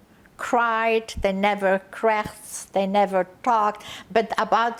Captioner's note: yiddish